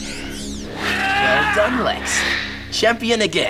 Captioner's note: Lex yells